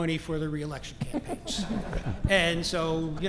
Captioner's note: laugh